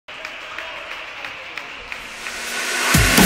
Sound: audience applauding; exciting rhythmic music

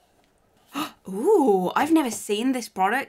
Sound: gasps

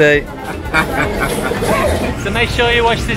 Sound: laughter

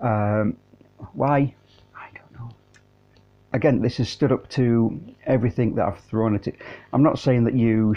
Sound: whispers "I don't know"

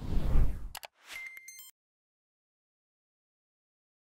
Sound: air whooshing; beeping

